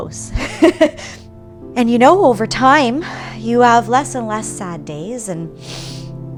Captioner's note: laugh